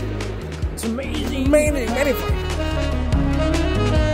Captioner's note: in french but with a bad english accent